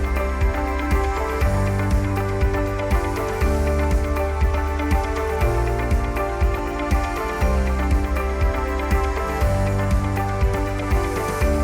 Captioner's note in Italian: Applauso